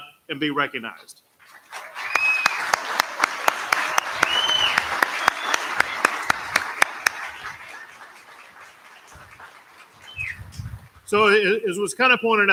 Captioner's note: applause